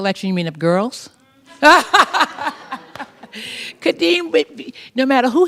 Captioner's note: laughs